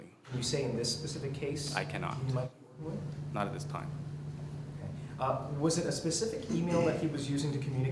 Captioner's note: coughs